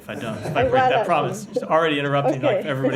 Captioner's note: laughter